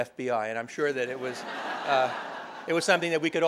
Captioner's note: laughter